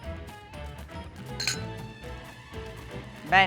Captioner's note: glasses clinking